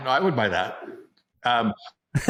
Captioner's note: laughs